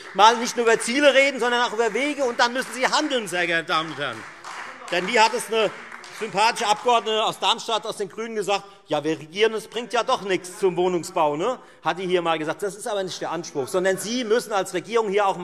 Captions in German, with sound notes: Sie sollten nicht nur über Ziele, sondern auch über Wege reden; und dazu müssen Sie handeln, sehr geehrte Damen und Herren. [Beifall Freie Demokraten und vereinzelt SPD] Denn eine sympathische Abgeordnete der GRÜNEN aus Darmstadt hat einmal gesagt: Ja, wir regieren, aber es bringt in Bezug auf den Wohnungsbau ja doch nichts. - Dies ist aber nicht der Anspruch, sondern Sie müssen als Regierung auch